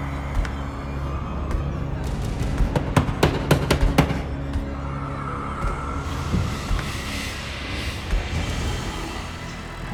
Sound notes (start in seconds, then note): 2.4 knocking